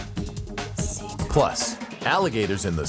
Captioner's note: lady whispering "secrets"